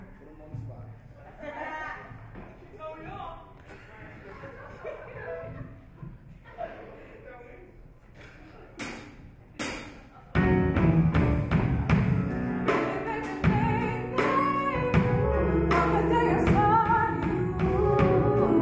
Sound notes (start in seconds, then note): 3.7 laughs